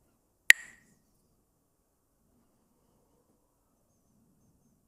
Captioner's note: clacks the sticks